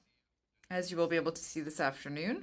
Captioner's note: speaking in French